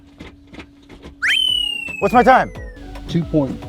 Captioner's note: gear shifts loudly; whistle blows